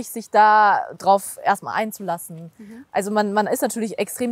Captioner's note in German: none